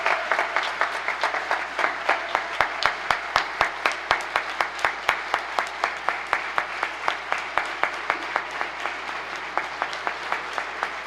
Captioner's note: applause